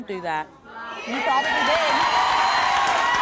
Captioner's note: cheering